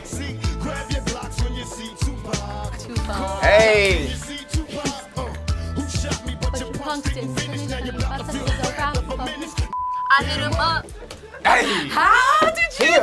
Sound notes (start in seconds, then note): 9.7 beep; 10.8 crew laughing